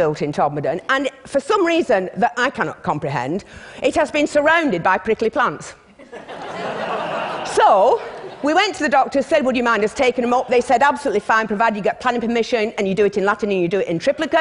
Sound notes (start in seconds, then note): 5.9 laughter